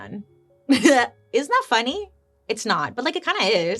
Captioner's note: laughs